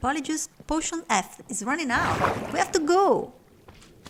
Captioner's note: slime bouncing sound